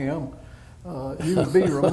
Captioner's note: laughter